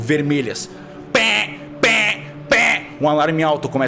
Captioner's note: alarm sounds